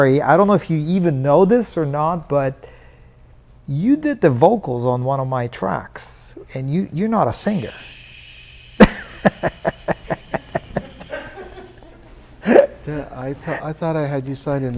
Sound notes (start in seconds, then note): 8.8 laughing; 10.9 crew member laughing